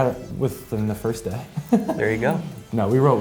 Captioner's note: laughs